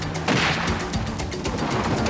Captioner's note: gunshot